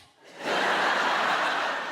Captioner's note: audience laughs